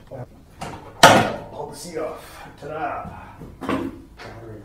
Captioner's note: loud bang